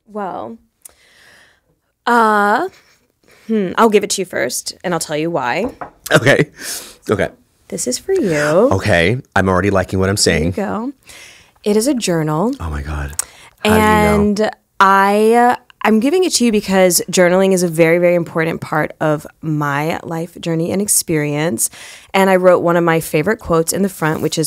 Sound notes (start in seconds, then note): 6.6 chuckle